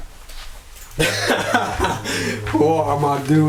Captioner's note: laughs